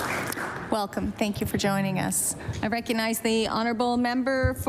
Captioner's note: applause